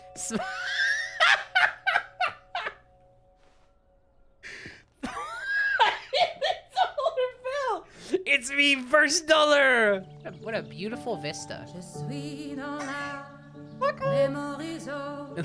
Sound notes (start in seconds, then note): 0.3 laughs at happiness; 4.5 laughing; 10.4 speaking normally; 12.6 laughing